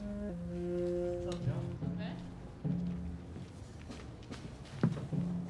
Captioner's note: people chattering